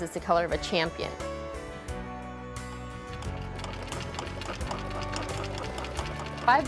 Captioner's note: sewing machine